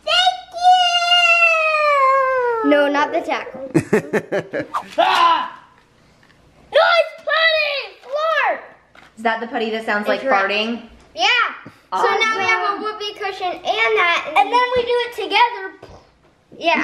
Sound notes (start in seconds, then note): 3.7 laughing; 5.3 growling